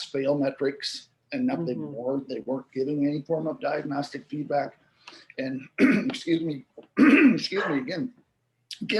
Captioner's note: cough